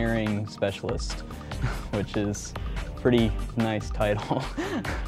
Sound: laughs

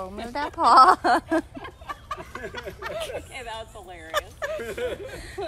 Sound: laughter

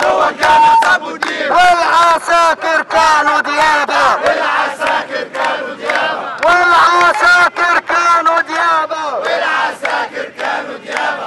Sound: chants

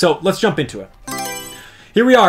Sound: Mario Selection Sound

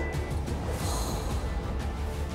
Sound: sigh

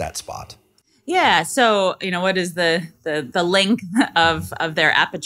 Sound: laughing

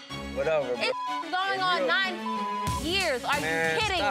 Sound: beep

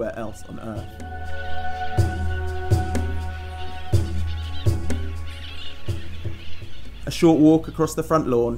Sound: jungle sounds

